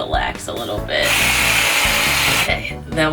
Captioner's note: whirrrr